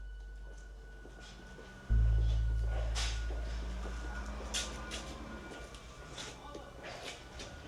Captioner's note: footsteps